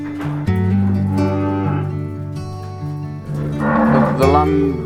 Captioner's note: cows moo